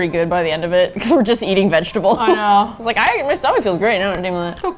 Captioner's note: laughing